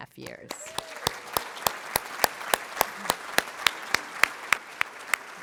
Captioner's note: applause